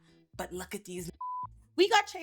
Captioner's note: beep